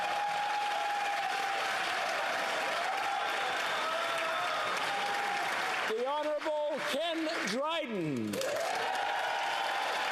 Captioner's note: cheering